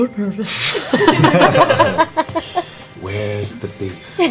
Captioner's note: laughter